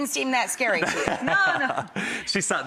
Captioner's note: Chris laughs softly